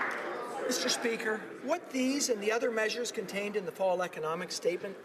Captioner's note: applause